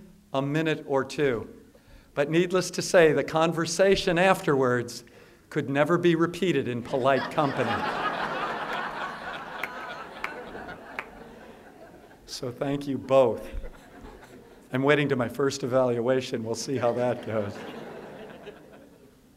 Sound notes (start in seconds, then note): 10.4 laughter